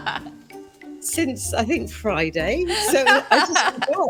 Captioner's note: everyone laughing